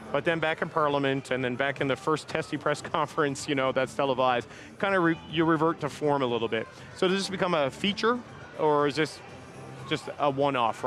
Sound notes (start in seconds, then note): none